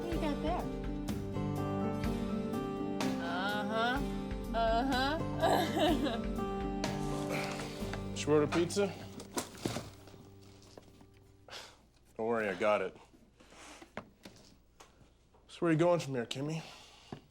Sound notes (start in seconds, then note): 5.4 laughs; 11.6 scoffs